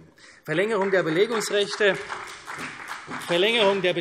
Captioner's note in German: Beifall CDU und Freie Demokraten